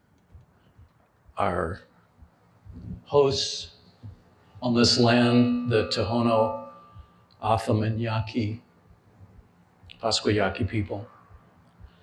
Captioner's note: non-english speech